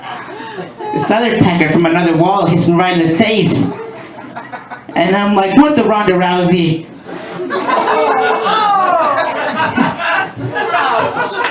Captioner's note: laughter; laughter